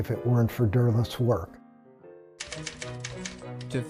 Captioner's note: typewriter clicking